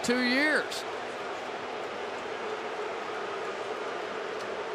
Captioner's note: booing